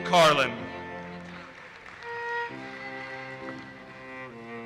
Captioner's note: audience applauses